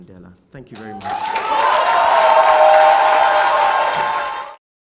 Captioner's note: crowd applauds